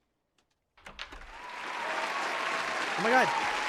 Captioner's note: rapturous applause